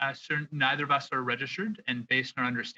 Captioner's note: speaking French